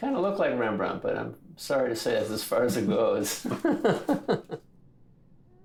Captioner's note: laughs